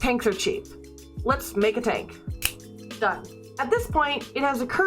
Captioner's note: snap